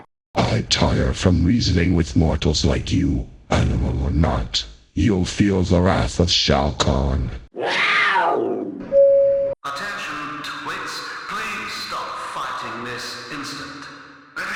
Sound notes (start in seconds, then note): 7.5 roar; 8.9 intercom Beep